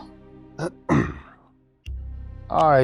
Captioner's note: clearing throat